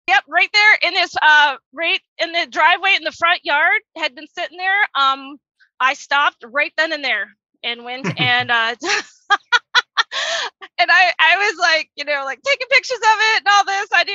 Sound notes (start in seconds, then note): 7.9 laughs